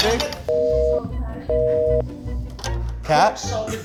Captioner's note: dial tone beeping